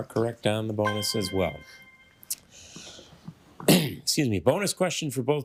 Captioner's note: triumphant chime